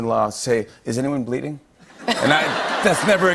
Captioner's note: laughter